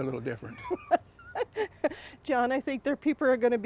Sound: laughing

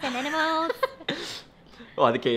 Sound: laughs

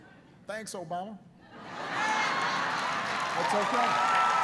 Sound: laughter

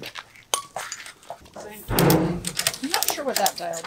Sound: ratchet strap clicks

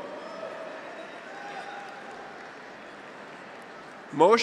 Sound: graduates cheer; audience applauds

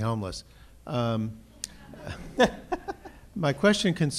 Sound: laughter

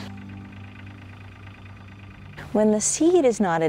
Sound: tractor engine idling

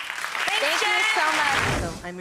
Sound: audience applauding

